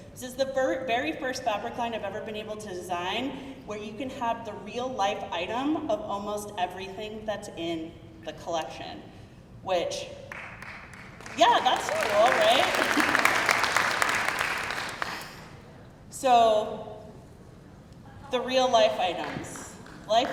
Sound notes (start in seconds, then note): 10.3 crowd clapping